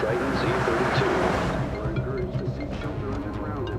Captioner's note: cell phone ringing